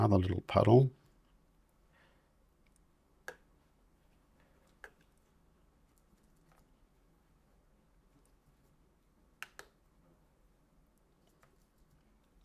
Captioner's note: silence